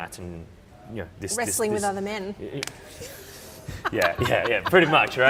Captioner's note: laughter